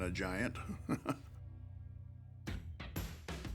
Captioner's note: laugh